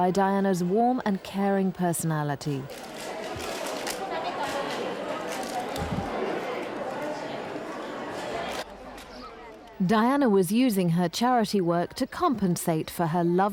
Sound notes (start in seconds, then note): 3.4 cameras shuttering; 5.0 indistinct chatters